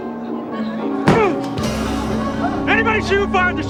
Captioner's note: grunts